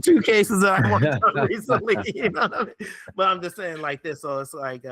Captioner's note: laughing